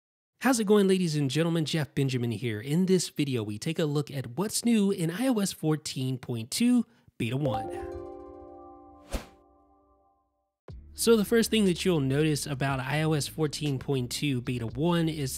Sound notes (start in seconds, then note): 7.4 soft music; 9.1 air whooshing